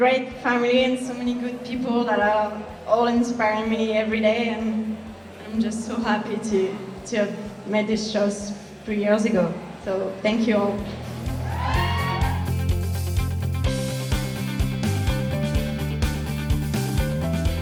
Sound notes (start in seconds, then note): 11.0 cheerful music playing; 11.3 all cheering